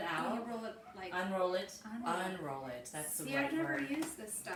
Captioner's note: speaking slowly